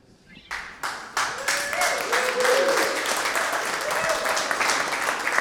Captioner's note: audience applauding